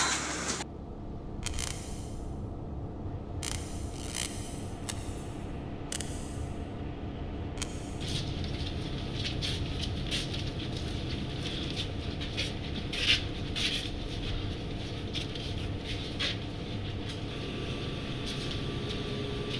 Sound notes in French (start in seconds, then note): 1.4 Craquements électriques